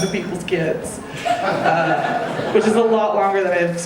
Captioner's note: audience laughing